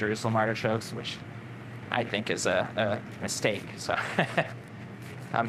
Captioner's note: laughs